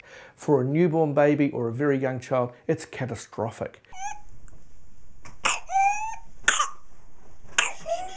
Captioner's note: young baby coughing and mother comforting baby